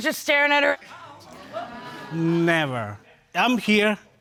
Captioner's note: audience clamoring